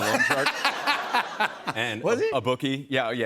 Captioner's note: laughter